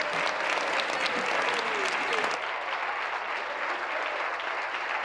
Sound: applause

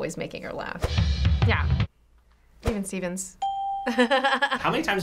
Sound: upbeat music; ding; chuckles

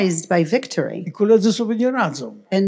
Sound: foreign language

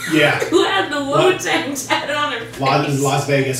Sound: laughing

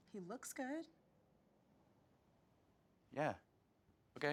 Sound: none

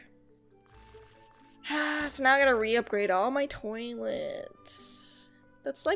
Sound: sighs

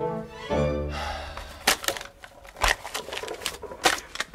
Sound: sighs

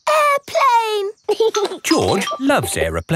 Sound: giggling

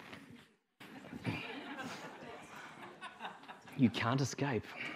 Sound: audience laughing

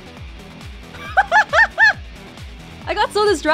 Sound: chuckles

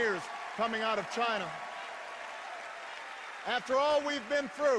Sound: cheers and applause

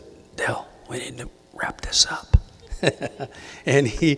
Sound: giggles

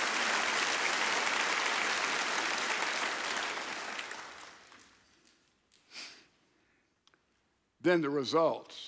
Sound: audience applauds

